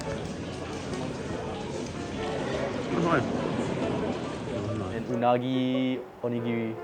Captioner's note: crowd chattering